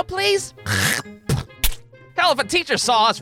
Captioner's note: ach-ptooey!